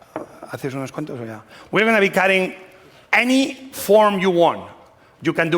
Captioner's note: spanish